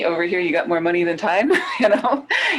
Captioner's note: laughing